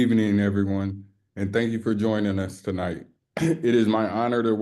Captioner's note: clears throat